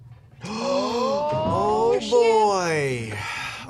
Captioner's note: gasps